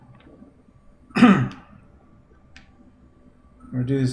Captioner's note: clears throat